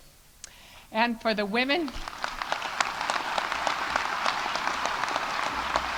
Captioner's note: audience applauding